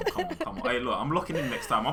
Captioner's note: laughs